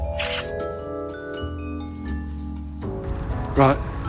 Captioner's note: camera snapping